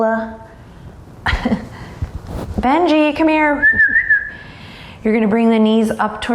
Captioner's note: chuckles; whistles